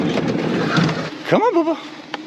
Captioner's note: van door opens